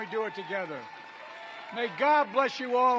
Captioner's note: applause